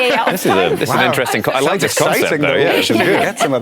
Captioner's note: overlapping chatter